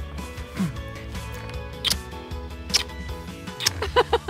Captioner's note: both smooching; both laugh